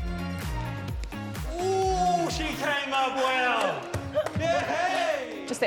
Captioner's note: laughs